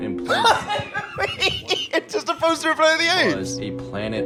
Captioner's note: laughing